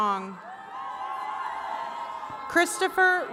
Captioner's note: attendees cheering